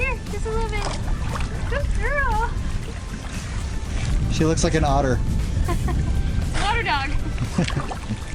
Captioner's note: laughter